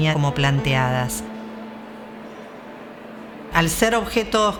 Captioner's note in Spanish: murmullo de gente